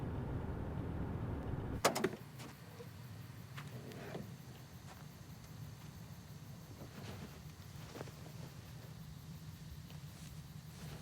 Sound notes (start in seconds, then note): 1.8 trunk clattering; 4.7 insects chirping